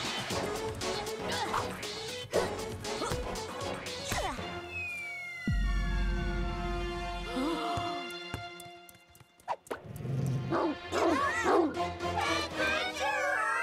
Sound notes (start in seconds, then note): 0.2 tense music; 2.3 grunting; 7.2 all gasping; 10.4 dog barking